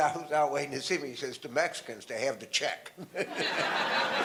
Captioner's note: audience laughter